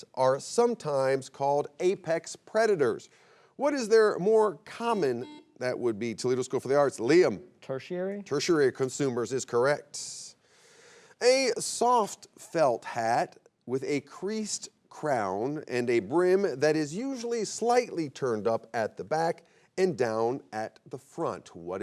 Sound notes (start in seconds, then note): 4.8 buzzer beeps